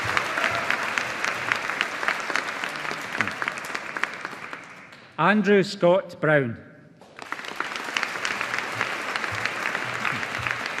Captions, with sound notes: Andrew Scott Brown. (AUDIENCE APPLAUDING)